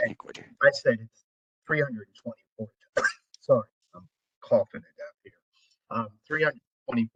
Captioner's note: cough